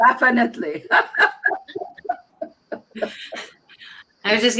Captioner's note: laughter